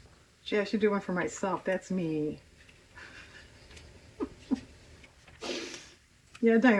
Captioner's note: laughs